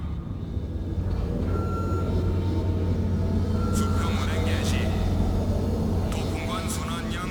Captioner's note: non-english speech